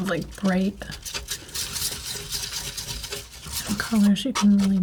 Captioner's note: tapping